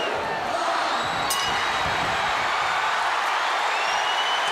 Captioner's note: bell ringing; crowd cheering